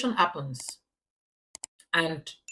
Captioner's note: paause